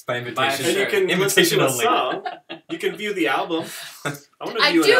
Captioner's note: laughter